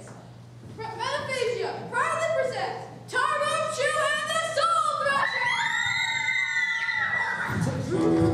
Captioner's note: all princesses screaming and cheering